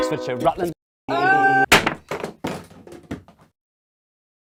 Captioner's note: sound of ukulele being hit